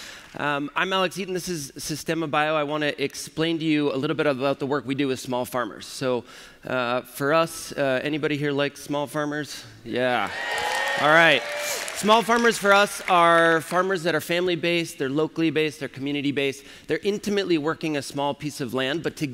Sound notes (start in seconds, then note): 10.2 applause